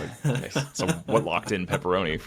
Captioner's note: laughing